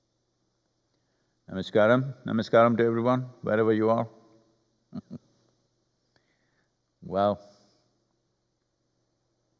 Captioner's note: laughs